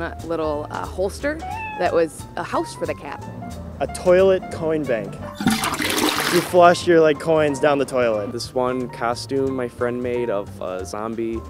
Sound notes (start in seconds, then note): 5.3 toilet flush